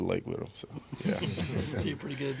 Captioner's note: chuckling